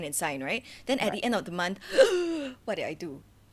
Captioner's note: gasp